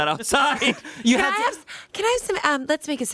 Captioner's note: everyone laughs